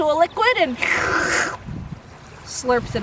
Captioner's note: slurping sound